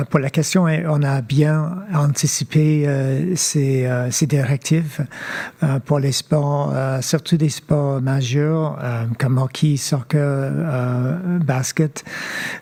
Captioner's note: speaking French